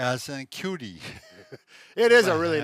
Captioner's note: both men chuckle